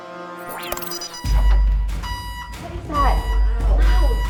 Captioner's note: siren blaring